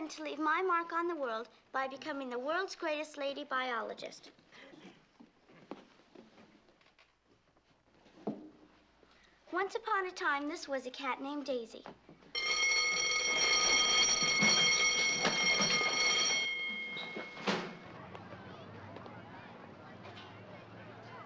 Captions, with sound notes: I intend to leave my mark on the world... by becoming the world's greatest lady biologist. Once upon a time this was a cat named Daisy. [ Bell Rings ] [ Chattering ]